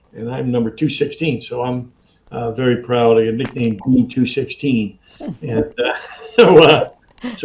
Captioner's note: laughs